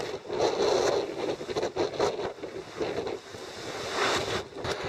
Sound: wind whipping

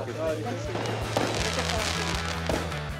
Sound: explosions

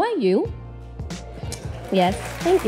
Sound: audience applauds

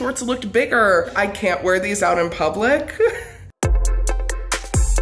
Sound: lighthearted music; laughs

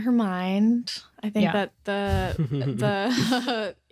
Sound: chuckles

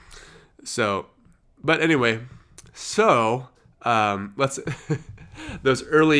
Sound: chuckles

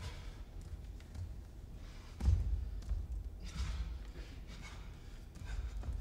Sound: man grunts and breathes hard

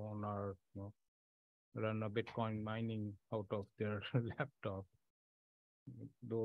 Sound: laughs

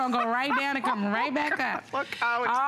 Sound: laughter

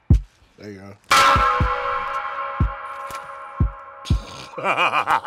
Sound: metal clanking

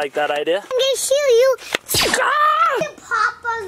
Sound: play gun whooshes; dad screams

